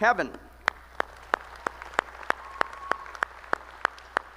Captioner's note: applause